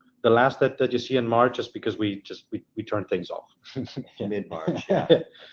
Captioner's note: laughs